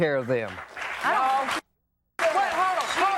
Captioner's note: audience applauding